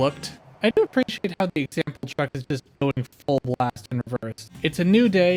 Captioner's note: choppy audio